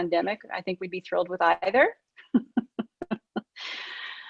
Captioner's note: laughs